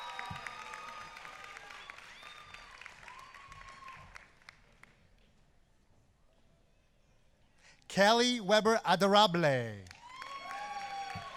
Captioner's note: applause